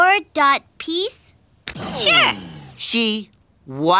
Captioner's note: clicking